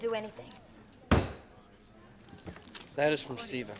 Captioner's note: hand slams